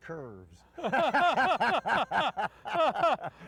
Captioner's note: all laughs